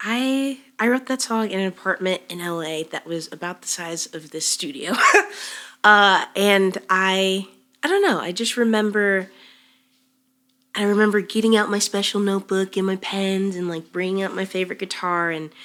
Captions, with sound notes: I wrote that song in an apartment in LA that was about the size of this studio. (chuckles) And I don't know, I remember getting out my special notebook and my pens, and bringing out my favorite guitar